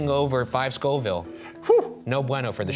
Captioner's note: sighing